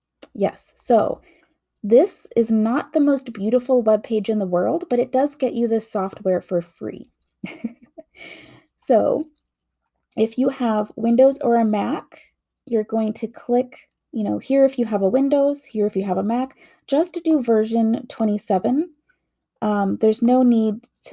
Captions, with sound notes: Yes, so this is not the most beautiful web page in the world, but it does get you this software for free! *laughts* so if you have windows or a mac, you're going to click ...you know here if you have a windows, here if you have a mac. Just to do version 27 um there's no need to